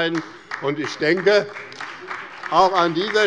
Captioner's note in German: Beifall bei dem BÜNDNIS 90/DIE GRÜNEN und der CDU